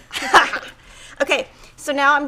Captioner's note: laughs